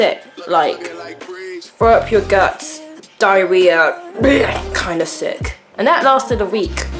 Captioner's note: professional acting sick voice